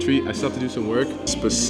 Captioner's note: laughing